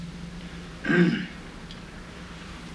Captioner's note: clears throat